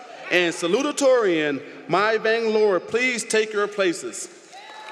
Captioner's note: applause